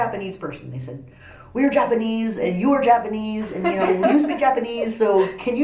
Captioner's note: laughs